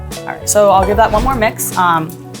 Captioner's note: instructions whooshing